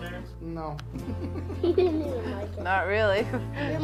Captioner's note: laughter